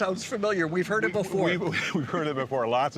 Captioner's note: laughing